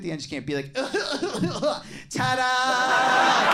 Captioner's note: imitates coughing; audience laughing